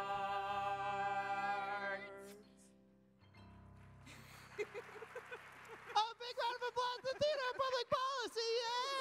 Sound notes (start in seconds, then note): 2.5 laughs